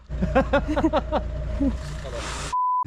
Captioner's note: laughing